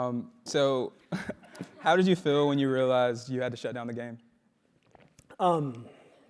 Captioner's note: laugh